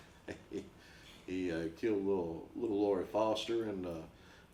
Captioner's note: chuckles; laughs